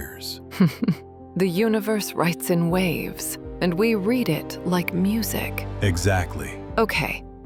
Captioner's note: soft laugh, brighter tone